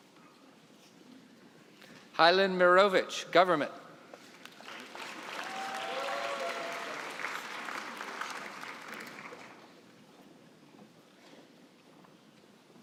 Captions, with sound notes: Hilan Mirovich, government. (cheering and applause)